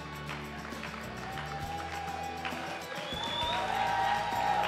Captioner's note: crowd applauding